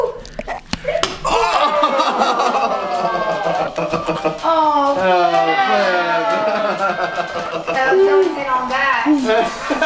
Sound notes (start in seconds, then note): 0.1 egg splats; 1.2 group groans and laughs